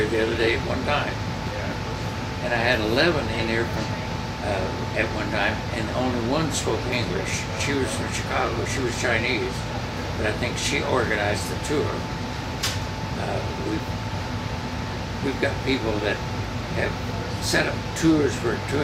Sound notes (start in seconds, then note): none